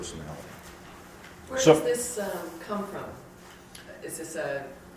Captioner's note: voiceover